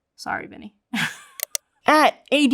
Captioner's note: chuckles